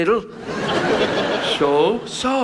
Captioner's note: audience laughs